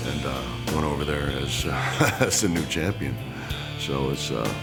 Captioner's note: laugh